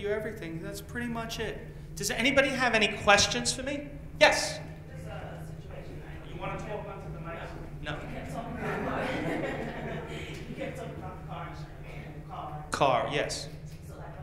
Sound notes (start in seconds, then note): 8.1 laughs